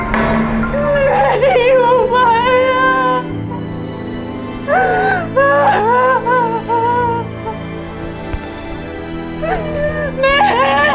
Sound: Jang, crying and lamenting over or for her mom

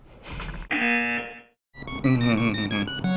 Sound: laughs; buzzer rings; hums

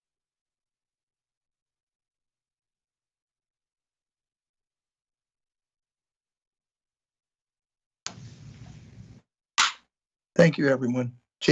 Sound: moment of silence

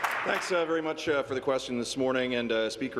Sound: applause

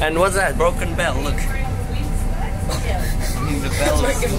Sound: laughs

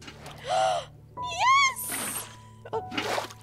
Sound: gasp

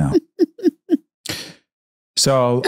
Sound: Candace laughing

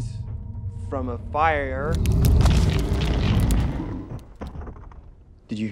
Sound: creaking sounds

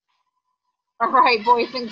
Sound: computer makes a cackling sound

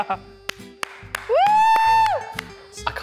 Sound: clapping and cheering

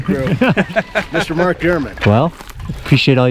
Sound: men chuckling

